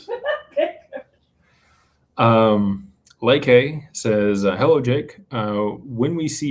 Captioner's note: laughter